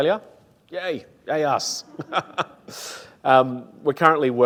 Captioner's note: laughs